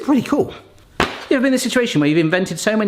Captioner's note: package slams